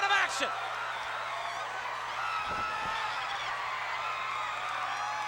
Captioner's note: crowd cheers